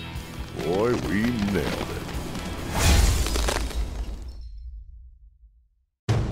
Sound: ice shattering

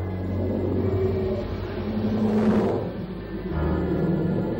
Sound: dragon howling; ominous music

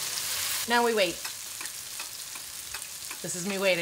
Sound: clock ticking

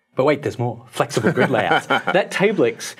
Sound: laughs

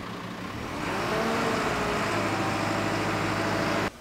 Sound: engine revving

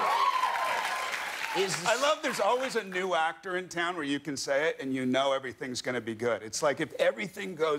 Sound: cheers and applause

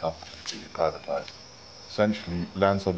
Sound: crickets chirping

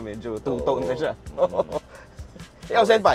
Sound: laughing

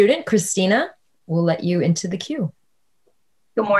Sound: none

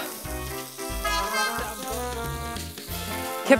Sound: sizzling

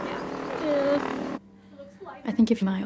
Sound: playful nervous whimper

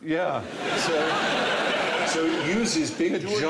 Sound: laughter

